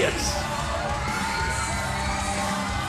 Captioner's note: crowd cheering